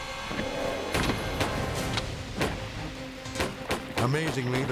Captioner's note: gun bangs